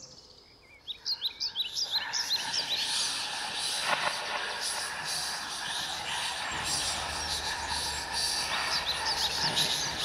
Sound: ghostly whispering

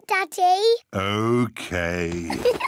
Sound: giggles

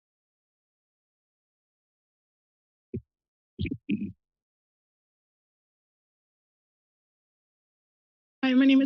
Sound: silence

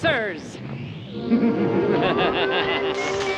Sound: machine whirring, beeping; laughing maniacally

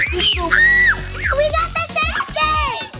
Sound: scream

